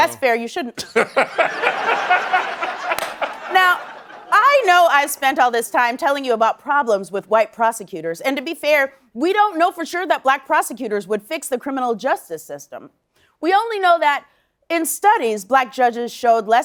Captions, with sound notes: That's fair, you shouldn't. [laughing] Now, I know I spent all this time telling you about problems with white prosecutors, and to be fair, we don't know for sure that black prosecutors would fix the criminal justice system. We only know that in studies, black judges showed